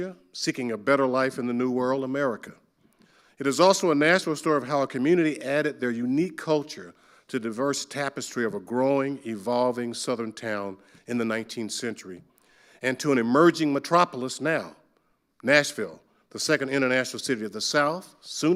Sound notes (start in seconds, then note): none